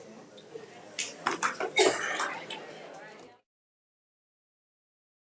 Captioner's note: crowd chatter